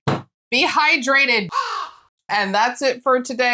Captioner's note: caw